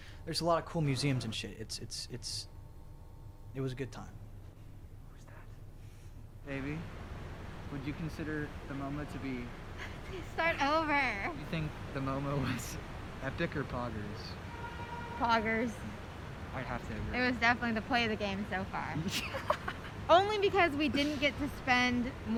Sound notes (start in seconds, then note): 9.8 chuckles; 19.0 laughs